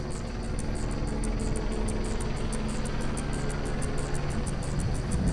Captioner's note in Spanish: Zumbido del helicóptero